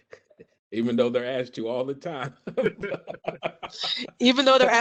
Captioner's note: laughs